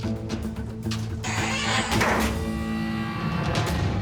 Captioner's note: freezer door creaks; dramatic suspenseful music